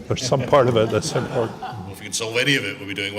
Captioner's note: laughing